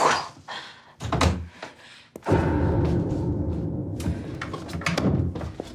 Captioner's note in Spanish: Sonido al abrir la puerta